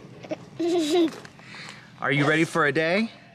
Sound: laughs

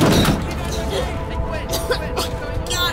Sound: gasping

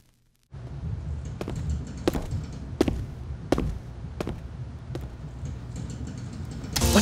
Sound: footsteps

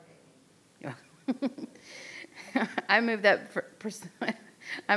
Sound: laughs

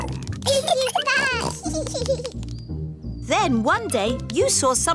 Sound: both giggling

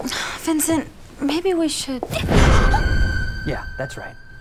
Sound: gasp

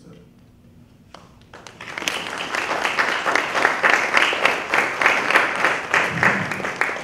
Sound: applause

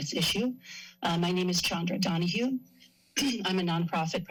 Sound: clears throat

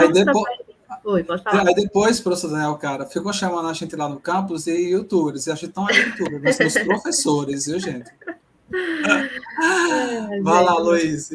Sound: laughs

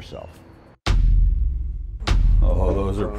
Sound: text thuds

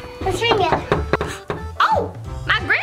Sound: knocks; gasps

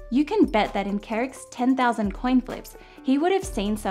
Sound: none

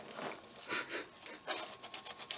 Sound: laughs

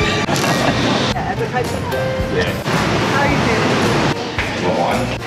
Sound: people chattering

